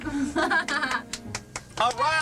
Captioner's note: helper laughs